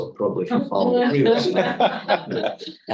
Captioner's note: group laughing